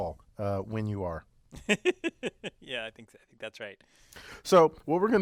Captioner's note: laugh